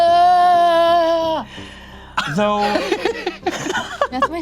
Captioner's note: laughs